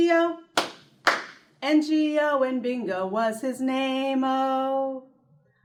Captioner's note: clap